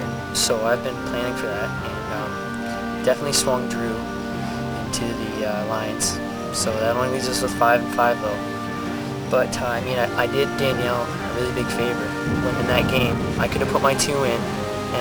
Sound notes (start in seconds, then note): none